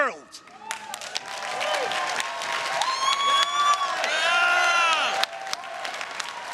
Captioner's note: everyone cheering and applauding